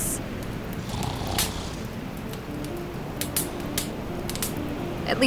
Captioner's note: Jack snoring